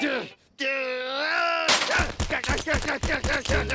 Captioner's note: groans; shouting